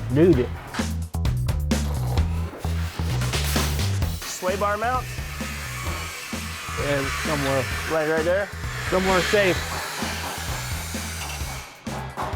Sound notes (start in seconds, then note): 1.1 funky music; 5.5 tools grinding